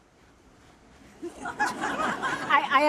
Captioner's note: audience laughing